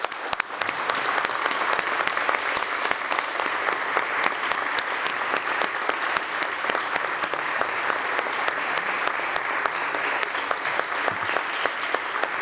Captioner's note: applause